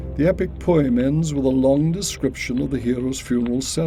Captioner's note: fire crackling